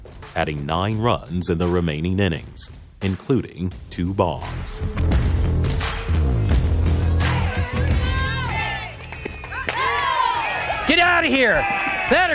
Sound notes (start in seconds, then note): 5.4 dramatic music; 7.0 crowd cheering